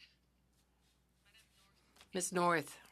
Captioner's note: speaking French